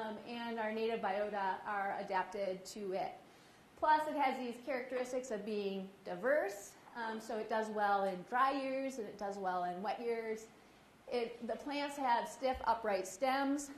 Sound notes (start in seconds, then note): none